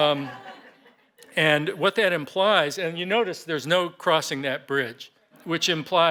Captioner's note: laughter